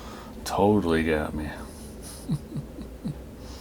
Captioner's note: chuckles